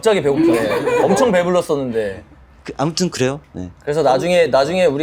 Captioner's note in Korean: 웃음